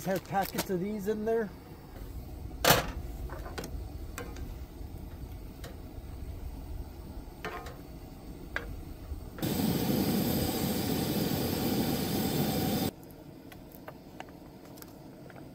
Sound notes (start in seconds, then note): 5.0 sizzling